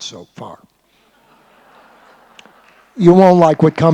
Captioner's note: laughter